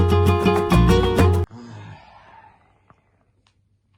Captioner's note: sighs